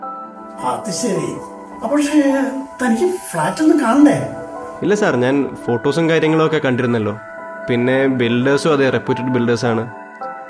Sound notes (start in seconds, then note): none